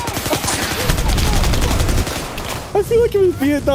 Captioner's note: gunshots